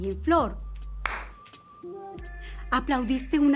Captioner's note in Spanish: aplauso